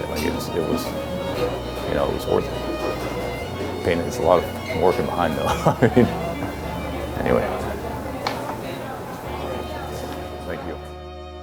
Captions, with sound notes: I mean, as soon as you know it's worth it. Then it's a lot of working on and on. (chuckling) But yeah. (gentle music)